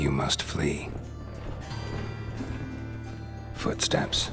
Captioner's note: faint commotion